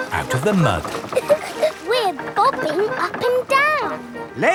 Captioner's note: chuckles